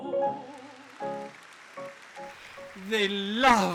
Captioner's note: music fades; audience applause